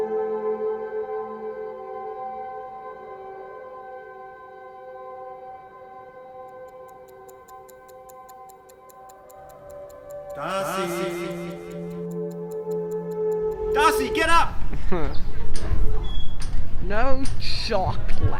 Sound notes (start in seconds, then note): 8.5 ticking